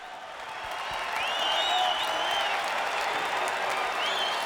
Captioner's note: audience cheering